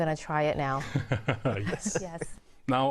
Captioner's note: laughs